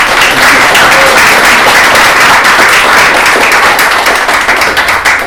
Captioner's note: applause